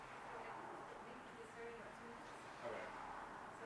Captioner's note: participants chattering